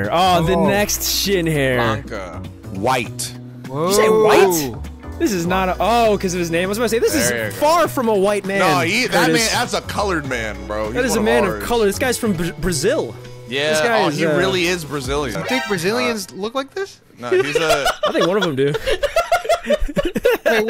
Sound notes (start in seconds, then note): 17.3 laughing; 19.8 chuckling